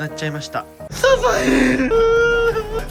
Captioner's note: crying